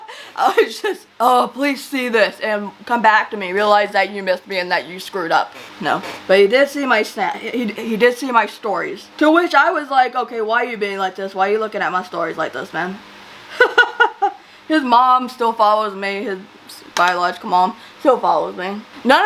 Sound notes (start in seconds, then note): 13.6 laughs